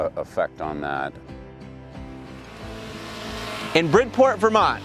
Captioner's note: lively music; machine whirring